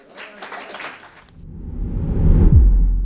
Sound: audience applause

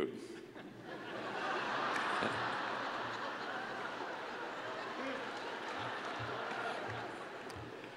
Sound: laughter

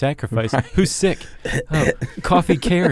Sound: coughs

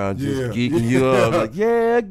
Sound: laughing

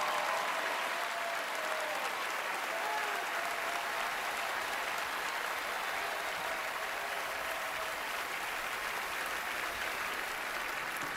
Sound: cheering, applause

